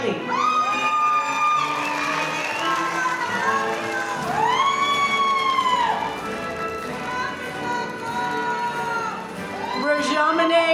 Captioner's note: applause